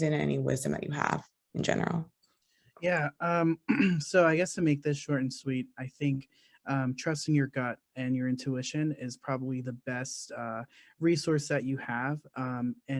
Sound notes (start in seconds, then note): 2.9 clears throat